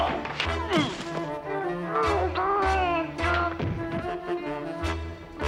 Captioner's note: groans; tense music; muffled yelling